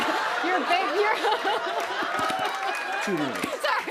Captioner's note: laughter